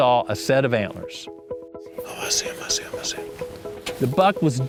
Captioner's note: whispering